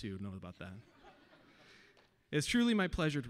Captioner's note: audience laughing